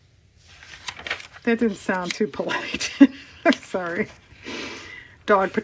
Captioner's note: laughs